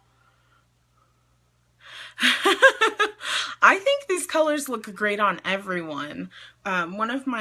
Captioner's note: laughs